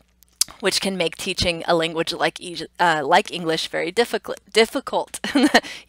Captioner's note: laughing